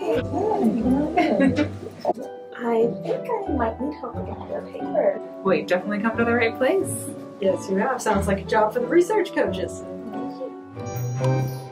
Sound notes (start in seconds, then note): 1.1 laughter